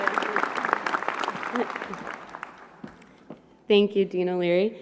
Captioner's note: applause